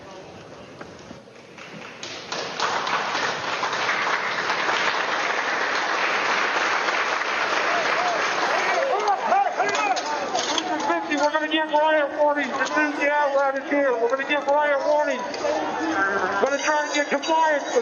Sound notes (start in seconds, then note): 6.4 applause